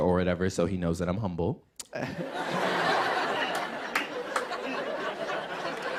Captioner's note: laughter